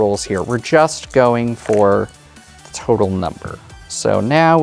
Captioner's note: dice rattling, then rolling